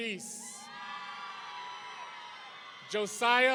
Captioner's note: audience cheering